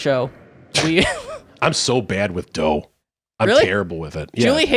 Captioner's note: chuckling